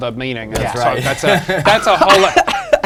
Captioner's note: laughs